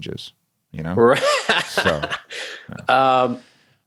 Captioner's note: laughs